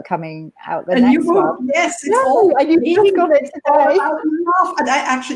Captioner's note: laughing